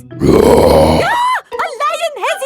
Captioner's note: roars; screams